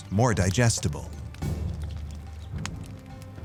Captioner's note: fire crackling